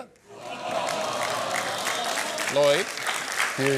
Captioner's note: audience sighs and claps